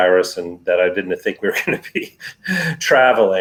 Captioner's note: laughs